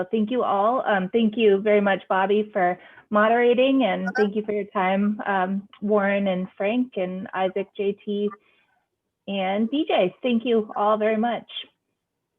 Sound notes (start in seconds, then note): none